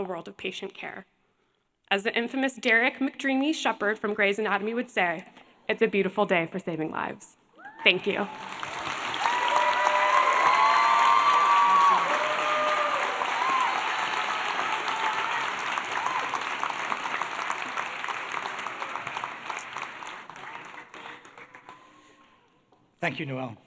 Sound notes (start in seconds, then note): 10.7 applause